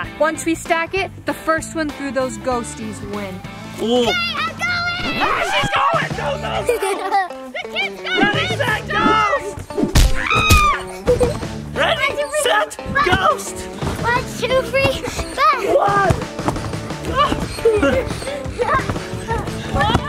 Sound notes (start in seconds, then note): 4.8 record screeching; 9.7 thudding; 10.2 screaming; 16.7 upbeat music